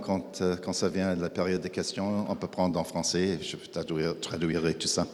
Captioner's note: speaking in French